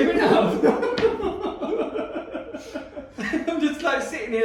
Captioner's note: laughing